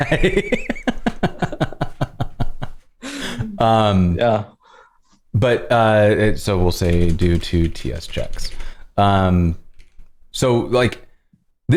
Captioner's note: laughter